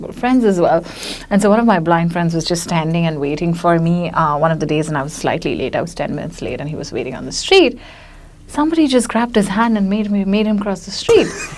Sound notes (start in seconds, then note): 11.2 laughs